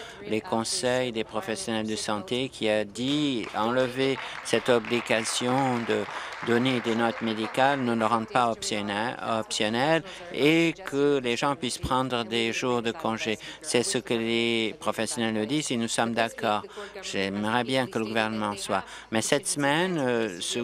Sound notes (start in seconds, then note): 7.8 applause